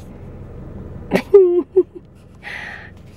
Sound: laughs

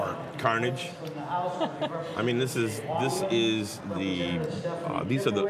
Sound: laughter

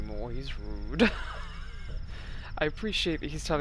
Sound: laughs

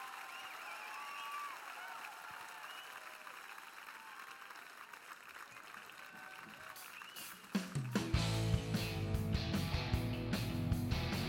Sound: cheers and applause

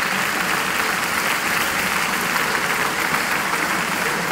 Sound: applause

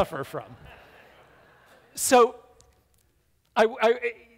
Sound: audience laughs

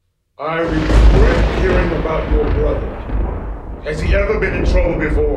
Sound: voiceover

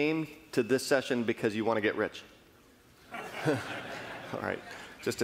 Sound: laughing

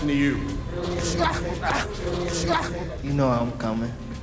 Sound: grunting

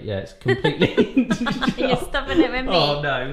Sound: laughing

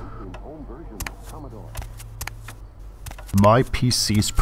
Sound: footsteps

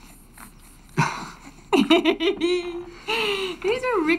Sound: both laugh

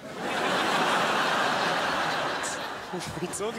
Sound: crowd laughs

